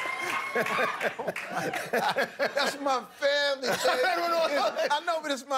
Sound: laughter

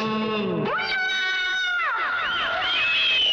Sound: screams

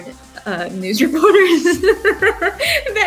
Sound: laughs

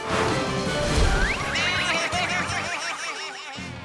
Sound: baaing

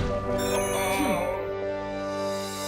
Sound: Mechanizer chimes

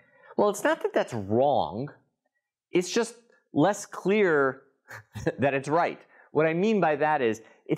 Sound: laugh

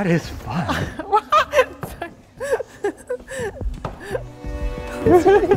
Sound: laughing

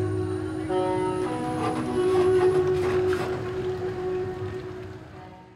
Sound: bus tones

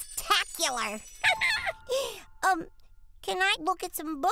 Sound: giggling

